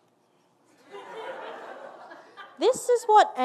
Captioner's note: audience laughing